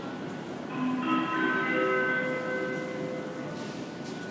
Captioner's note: signal of the arrival of train